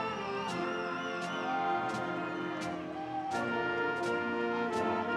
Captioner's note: audience cheering